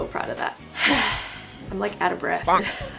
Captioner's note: sigh; laughs